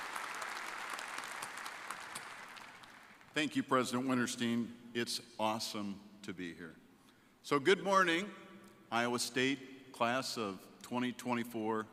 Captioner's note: applause